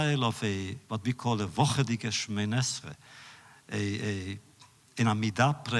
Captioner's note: Yiddish